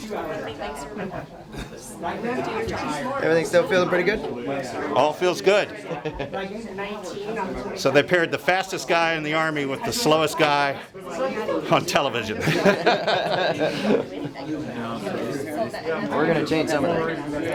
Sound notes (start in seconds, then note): 6.1 laugh; 12.3 laugh